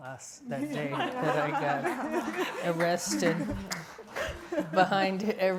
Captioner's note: all laughing